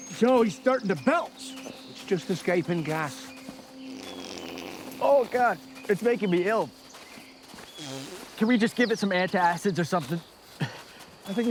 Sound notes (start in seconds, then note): 4.0 Wally breaks wind